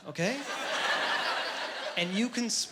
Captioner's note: laughing